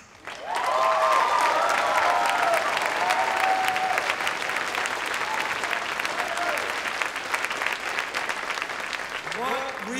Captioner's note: long Applause